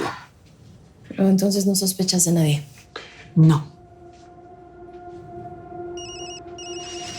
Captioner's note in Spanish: Suena el celular